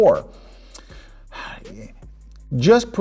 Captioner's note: sighs, at a loss for words